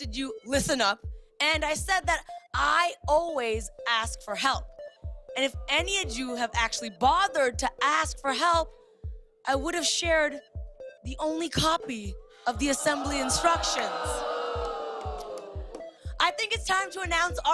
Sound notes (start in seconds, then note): 12.8 audience ohs